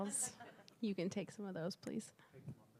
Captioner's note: laugh